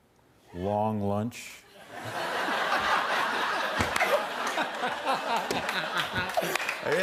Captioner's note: laughter